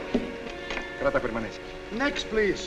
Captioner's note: officer speaking spanish